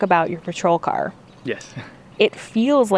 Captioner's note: laughs